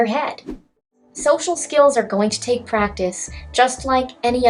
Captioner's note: swoosh swoosh